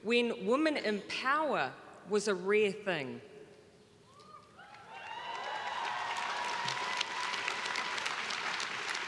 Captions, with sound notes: when women in power was a rare thing. (crowd cheering)